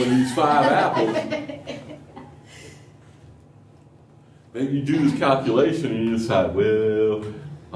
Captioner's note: laughter